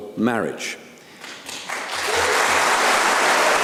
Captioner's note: applause